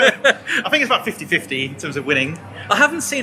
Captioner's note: laughter